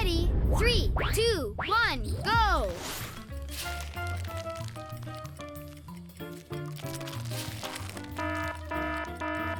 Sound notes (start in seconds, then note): 2.8 eggs cracking; 8.2 alarm blaring